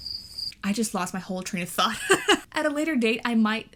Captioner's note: crickets; laughs